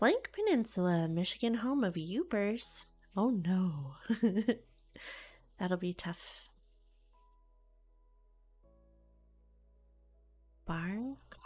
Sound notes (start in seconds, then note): 4.1 giggles